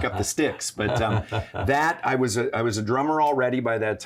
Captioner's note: laughs